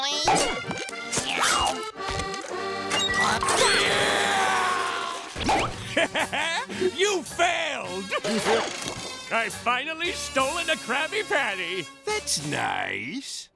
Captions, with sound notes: [screaming] [laughing] You failed! I've finally stolen a Krabby Patty. That's nice.